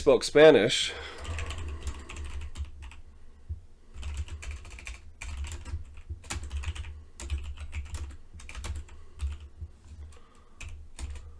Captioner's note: speaking to himself